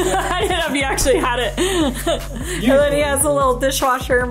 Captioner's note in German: lacht